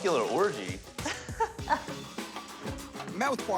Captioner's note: laughing